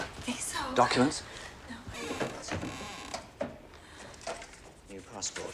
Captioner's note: door creaking